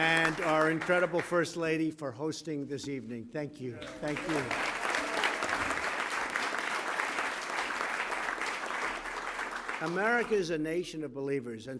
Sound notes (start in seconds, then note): 3.8 applause